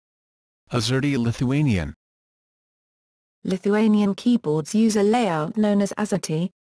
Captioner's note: Lithuanian